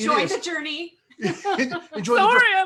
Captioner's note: laughs